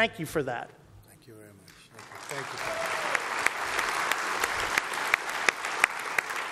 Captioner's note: applause